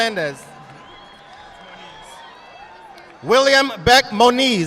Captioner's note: audience applauding